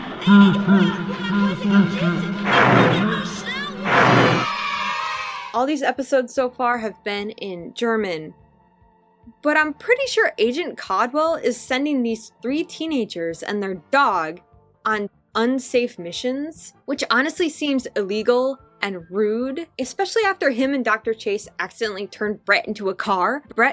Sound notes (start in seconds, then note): 0.1 Freddy laugh; 4.2 children cheering